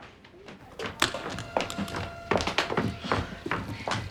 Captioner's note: city commotion